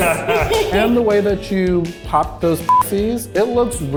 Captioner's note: beep